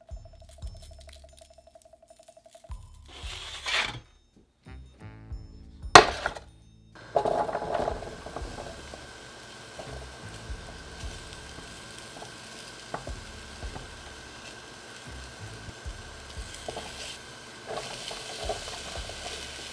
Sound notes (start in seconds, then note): 5.9 sweet potatoes dropping; 9.2 sizzling; 17.7 onions dropping